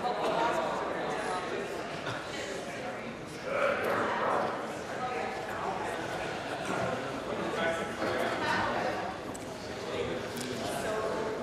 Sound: conversation din

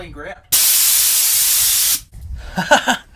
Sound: air pump sprays; laughs

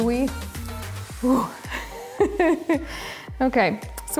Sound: giggling

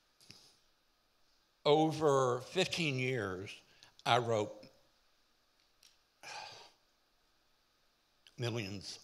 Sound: sighs

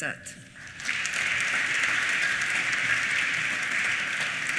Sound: applause

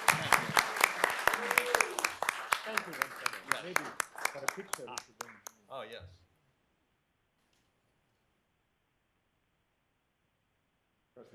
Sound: applause

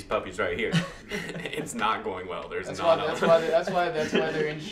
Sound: laughs

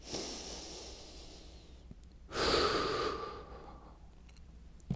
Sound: exhales; inhales

